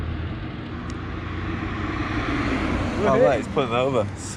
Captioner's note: car drives